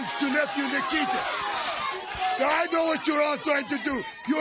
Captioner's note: crowd chatter